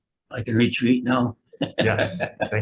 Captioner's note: laughs